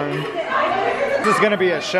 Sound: children shouting

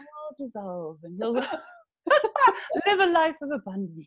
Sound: laughs

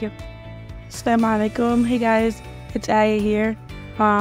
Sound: speaking foreign language

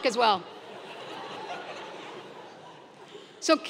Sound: laugh

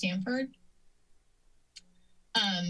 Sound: silence

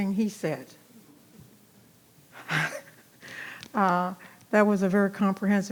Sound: audience laughing softly; chuckles

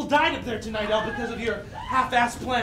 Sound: woman shrieking

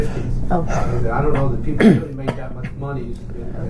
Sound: coughs

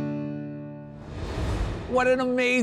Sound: transition whooshing

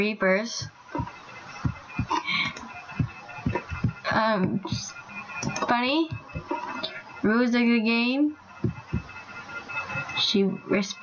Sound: she whispered

